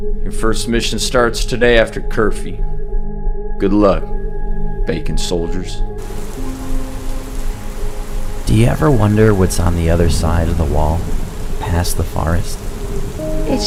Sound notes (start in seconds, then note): 6.0 rain pouring; 8.5 gentle serene music